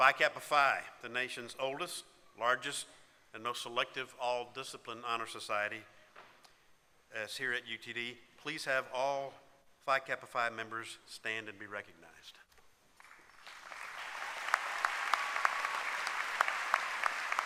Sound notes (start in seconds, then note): 15.1 applause